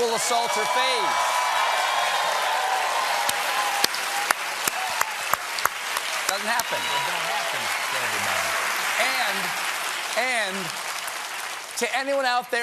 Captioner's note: cheers and applause